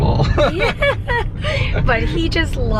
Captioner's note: chuckles